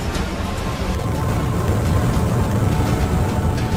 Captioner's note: heat Crackling